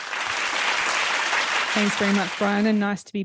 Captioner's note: audience clapping